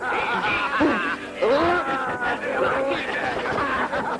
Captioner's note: laughter